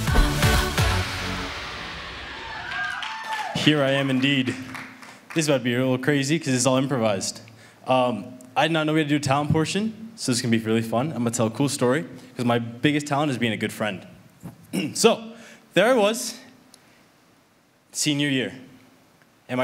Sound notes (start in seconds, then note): 0.0 upbeat music; 2.2 audience applauds